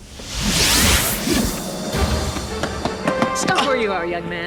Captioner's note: wind whooshing